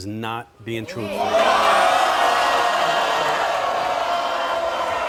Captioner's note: hollering